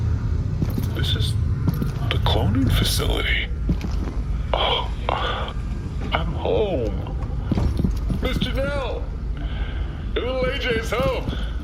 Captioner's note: calling out